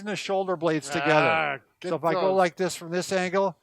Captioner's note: grunting